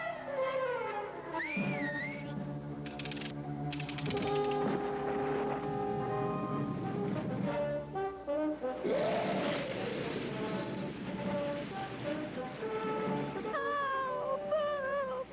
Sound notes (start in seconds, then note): 3.7 cranking; 5.0 water rushing